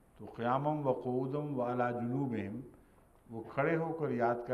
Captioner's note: Arabic